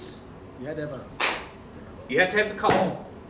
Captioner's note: hand clap